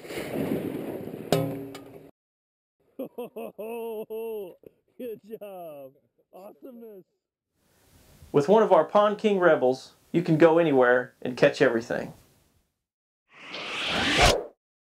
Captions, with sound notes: [laughter] Good job! With one of our Pond King Rebels, you can go anywhere and catch everything!